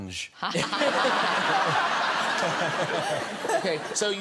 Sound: guests and audience laugh

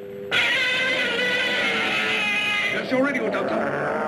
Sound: Gammera screeching

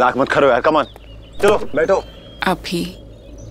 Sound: car door opens

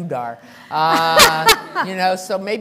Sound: laughter

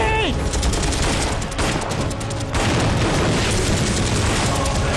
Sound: shooting

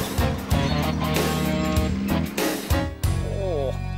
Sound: trucks beeping

